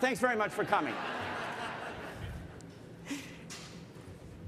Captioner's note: laughter